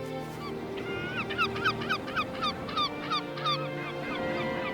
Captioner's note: birds cry softly